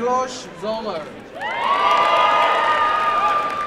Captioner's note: cheering